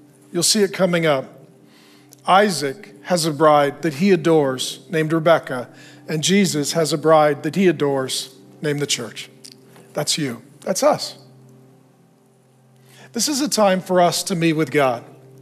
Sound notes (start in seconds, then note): none